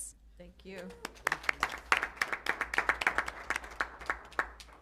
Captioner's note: applause